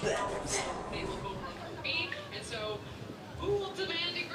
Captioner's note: TV playing